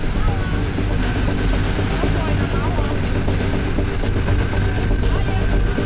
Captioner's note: speaking softly